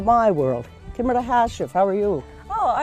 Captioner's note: gaelic